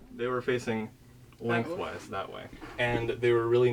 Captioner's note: laughs